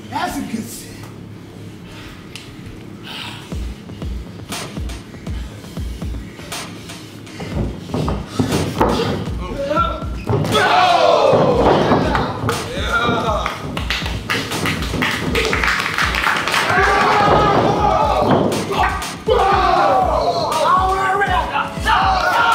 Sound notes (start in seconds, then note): 13.8 applause; 18.6 shouting